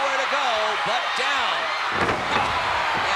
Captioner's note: body thudding; crowd cheering